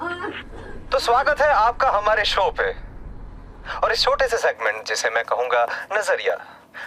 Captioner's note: radio creeks